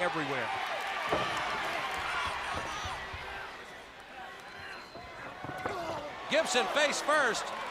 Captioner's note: crowd cheering